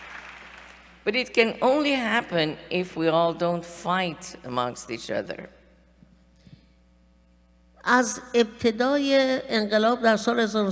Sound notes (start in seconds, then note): 7.4 speaking persian